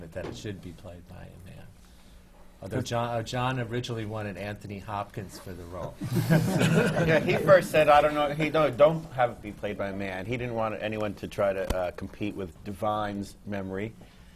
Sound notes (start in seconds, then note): 6.0 laughter